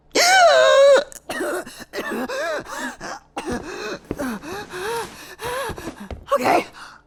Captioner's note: lots of coughing, panicked breathing; gasps